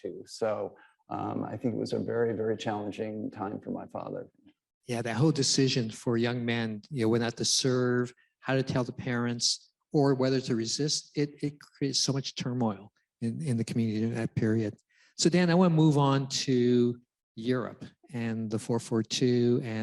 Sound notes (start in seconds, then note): none